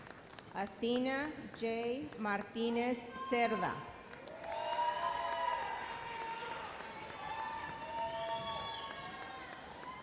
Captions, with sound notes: Athena J. Martinez Serra. (audience cheers)